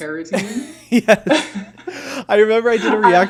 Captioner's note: laughing